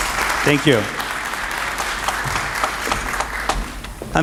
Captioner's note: applause